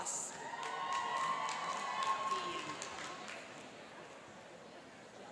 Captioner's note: cheering and applauding